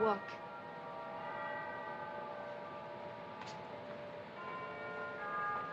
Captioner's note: bell tolls